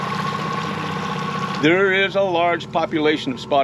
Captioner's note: fish splashing